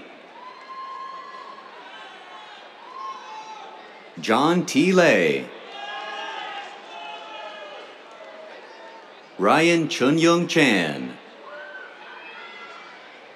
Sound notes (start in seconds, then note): 0.2 cheers; 5.6 cheers, applause; 11.3 cheers